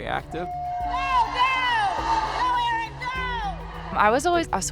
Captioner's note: cheering